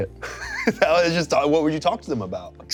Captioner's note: laughing